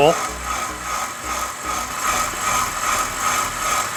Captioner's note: mixer whirring